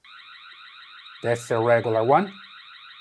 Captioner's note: alarm beeping